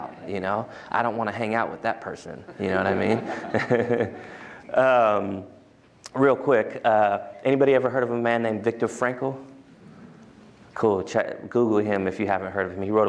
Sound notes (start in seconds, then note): 2.4 laughter